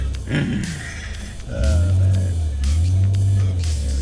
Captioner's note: laughs